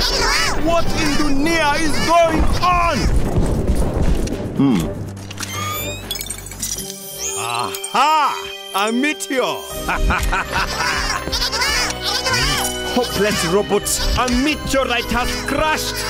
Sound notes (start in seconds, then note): 5.2 clicking and whirring; 5.3 beeping; 9.8 evil laughter; 10.5 chattering